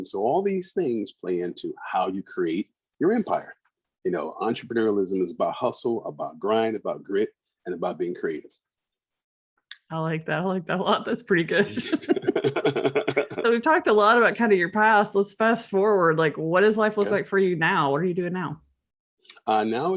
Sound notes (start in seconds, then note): 11.6 laughing